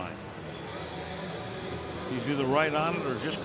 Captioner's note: pa announcement